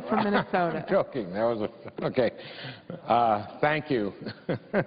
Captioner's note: laughter